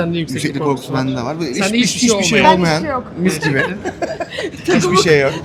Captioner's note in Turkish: kahkaha